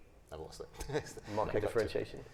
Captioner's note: chuckles